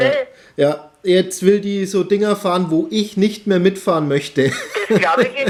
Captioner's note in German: lacht